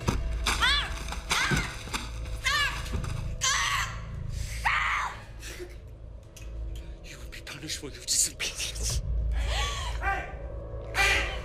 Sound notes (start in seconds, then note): 1.3 Alejandra shouts; 3.4 Alejandra screams